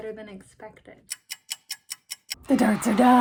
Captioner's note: clock ticking